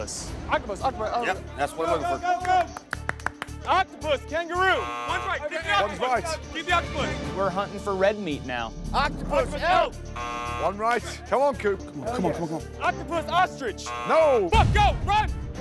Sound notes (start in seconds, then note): 10.1 buzzer